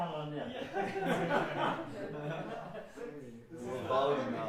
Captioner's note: laughing